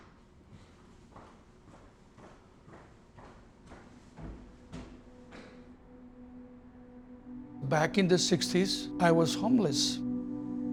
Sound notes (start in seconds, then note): 2.6 footsteps; 10.5 somber music